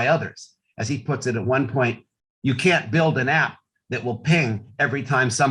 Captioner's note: none